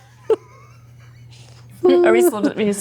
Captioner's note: laughter